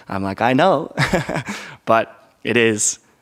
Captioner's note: chuckles